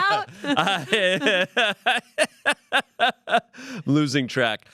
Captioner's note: everyone laughs